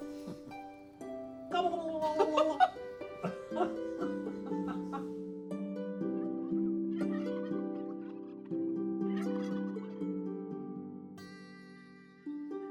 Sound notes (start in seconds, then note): 1.4 Brian gobbling; 1.5 Claire laughing playfully; 5.9 turkey gobbling